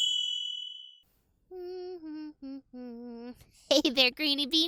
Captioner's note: bell ringing; cheerful humming